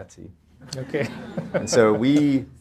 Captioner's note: audience laughter